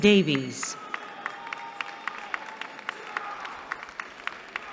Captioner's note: applause